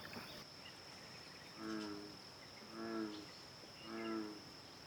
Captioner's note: bullfrog calls